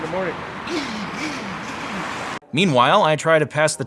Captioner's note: imitates Loud-Ass Bass